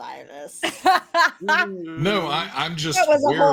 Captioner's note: laughing